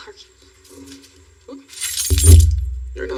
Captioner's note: keys jajangling